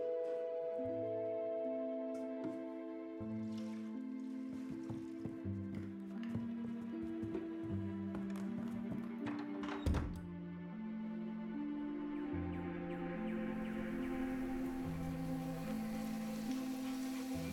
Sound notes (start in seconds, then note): 3.2 liquid pouring; 9.2 door thuds open; 12.6 electronic bird calls pulsing; 16.6 leaves rustle, wind gusts